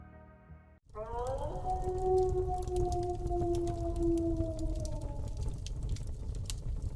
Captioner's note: wolf howling; fire crackling